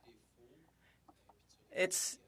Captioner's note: speaking French